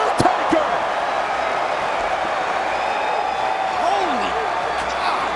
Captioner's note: crowd roaring